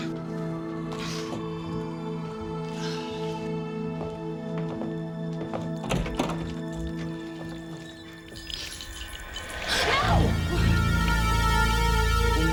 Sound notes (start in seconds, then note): 6.4 water dripping; 8.4 dramatic music